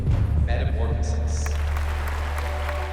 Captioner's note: applause